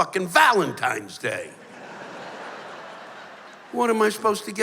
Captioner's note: laughter